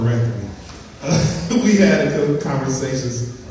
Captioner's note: laughs